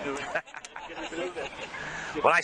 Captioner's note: laughing